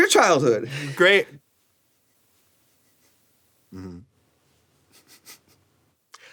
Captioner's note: snickering